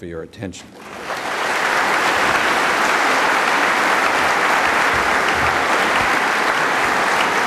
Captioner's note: applause